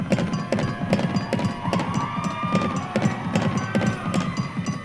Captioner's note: audience cheering